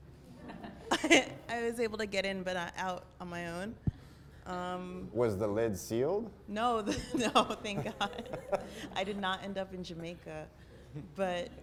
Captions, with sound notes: I was able to get in but not out on my own. - Was the lid sealed? - [Voiceover] No, no thank god. I did not end up in Jamaica.